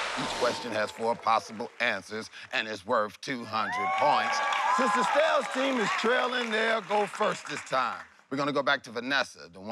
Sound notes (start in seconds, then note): 3.5 cheering